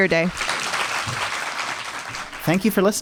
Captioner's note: audience applauding